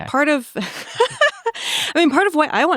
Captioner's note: laughs